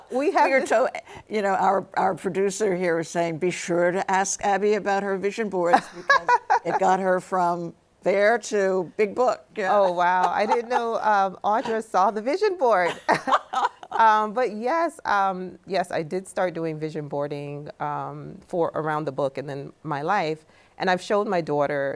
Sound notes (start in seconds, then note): 0.0 laughs; 5.6 laughs; 12.8 both laughing